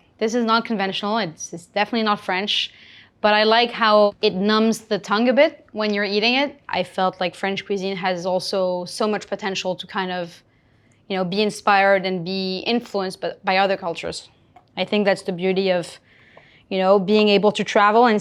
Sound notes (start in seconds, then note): none